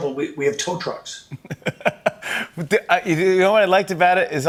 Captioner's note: laughs